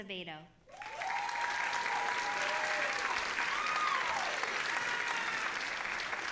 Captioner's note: audience applauding and cheering